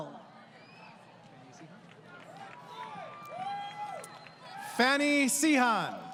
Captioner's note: crowd Cheering